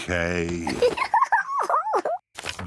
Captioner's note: giggles